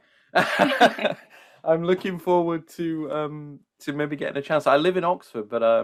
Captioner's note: laughs